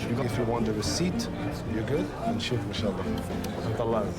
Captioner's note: non-english speech